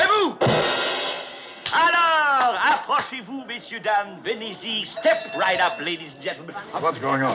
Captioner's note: cymbals Crash; speaking French